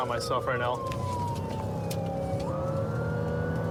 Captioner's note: siren blaring